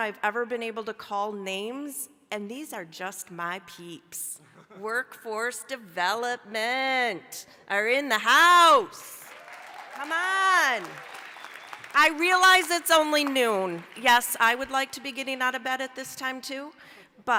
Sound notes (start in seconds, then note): 9.1 applause